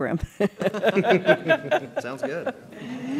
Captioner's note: laughter